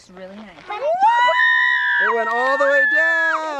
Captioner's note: cheers